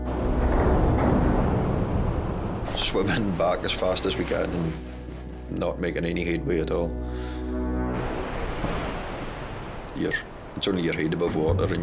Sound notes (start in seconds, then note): 0.3 gentle music; 7.9 waves roaring